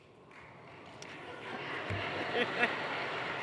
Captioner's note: applause; laughter